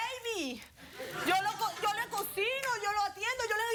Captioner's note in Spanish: risas